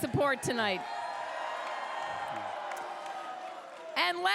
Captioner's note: crowd cheers